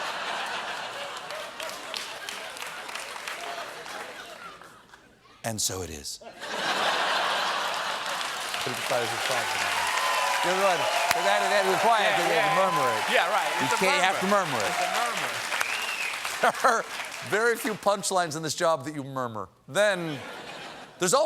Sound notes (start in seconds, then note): 0.2 laughter; 7.4 cheers and applause